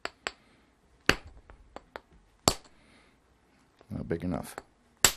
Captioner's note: knapping